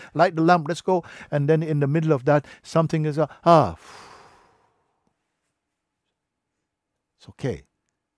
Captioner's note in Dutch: ademt uit